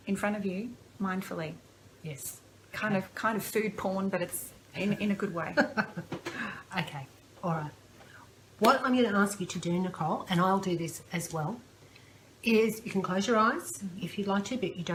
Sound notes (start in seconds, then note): 5.5 laughter